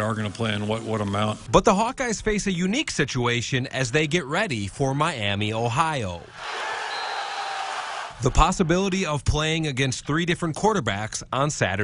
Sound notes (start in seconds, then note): 9.6 crowd